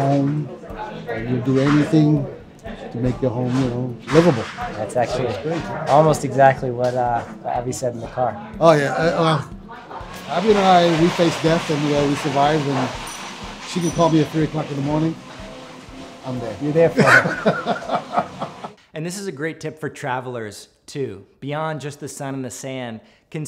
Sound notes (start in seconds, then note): 16.9 laughing